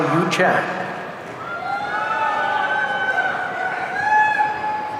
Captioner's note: audience cheering